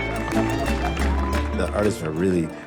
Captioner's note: cheering and applause